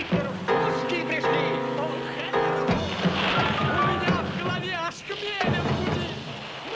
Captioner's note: soldiers yelling in foreign language continues